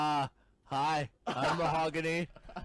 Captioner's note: laughs